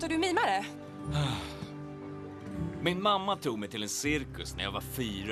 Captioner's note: sighs